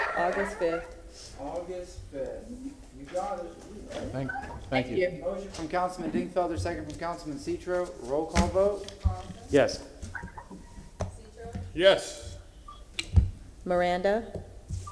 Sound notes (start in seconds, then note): 9.7 off microphone